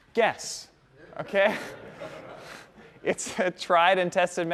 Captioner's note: laughter